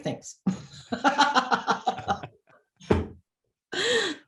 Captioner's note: both laugh